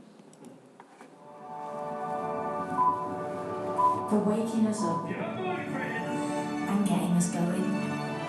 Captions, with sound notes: (BEEPS) For waking us up and getting us going.